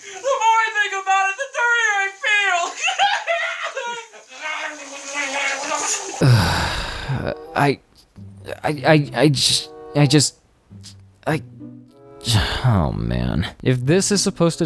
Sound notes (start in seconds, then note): 4.5 𝗴𝗮𝗿𝗴𝗹𝗲𝘀; 6.2 sighs; 8.5 stammers; 12.2 sighs again